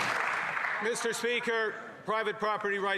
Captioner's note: some Applause